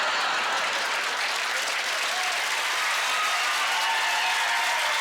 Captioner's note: cheering